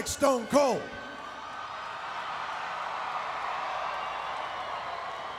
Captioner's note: audience cheering